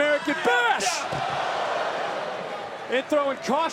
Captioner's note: crowd oohs